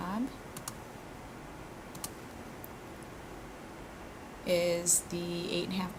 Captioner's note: computer mouse clicking